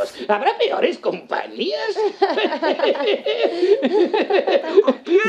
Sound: chuckles

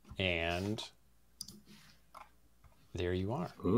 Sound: click

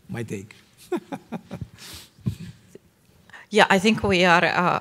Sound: giggling

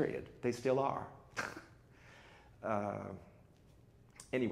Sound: chuckles

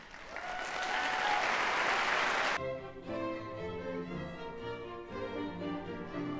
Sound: audience applauds

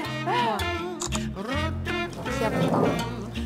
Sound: snap

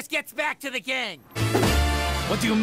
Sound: hands slam on desk

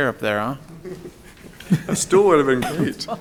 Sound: people chuckling

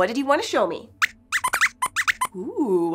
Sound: squeaks squeaks

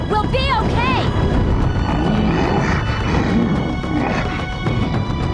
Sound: Appa whimpers

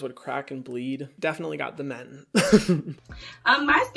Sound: chuckles

